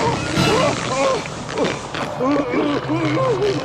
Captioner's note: cries out